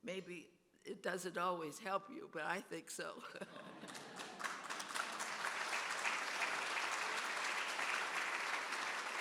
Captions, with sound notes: Maybe it doesn't always help you but I think so. (audience applauding)